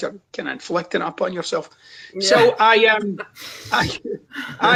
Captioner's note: chuckles